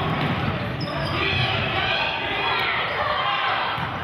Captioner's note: yelling